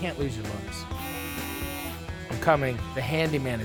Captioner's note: Handyman buzzing